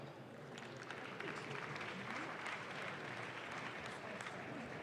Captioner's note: audience claps